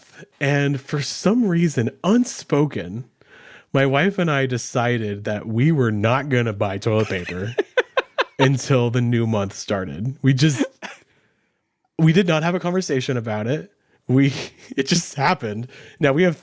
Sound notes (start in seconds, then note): 10.7 laughing